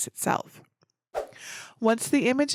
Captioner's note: whoosh sound effect